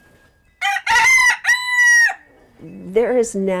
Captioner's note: rooster crowing